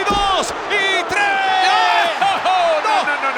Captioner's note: laugh